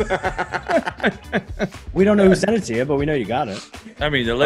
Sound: laugh

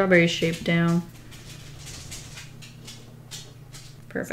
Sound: dog scuffling

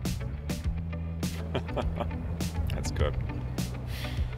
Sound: soft chuckle

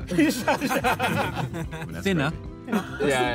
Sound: Red Team laughing

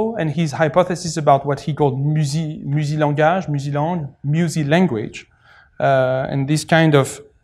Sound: french

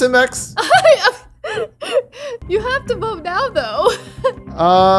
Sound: laughs

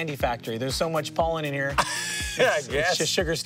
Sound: laughing

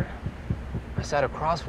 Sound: banging

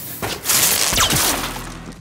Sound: bang

